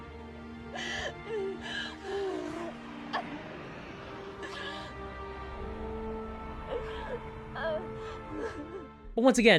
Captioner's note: Willow sobbing